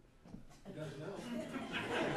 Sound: laughter

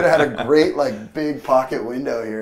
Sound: laughter

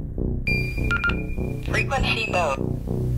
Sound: beeping

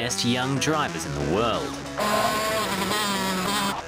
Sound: engine revs

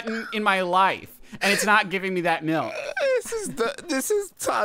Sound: laughing; laughing

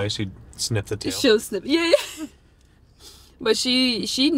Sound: laughs

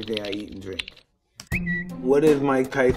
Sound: whistle

